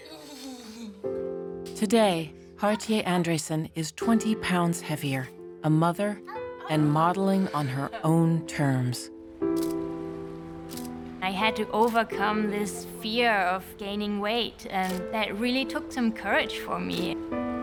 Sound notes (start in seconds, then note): 0.0 laughs; 9.5 camera shutter clicking